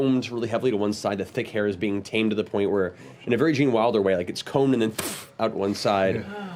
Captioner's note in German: puff